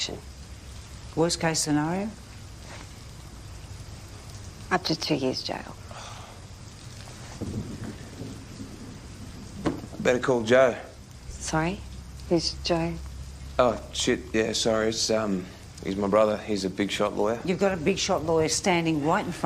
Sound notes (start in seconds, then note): 5.8 sighs; 6.3 thunder rumbles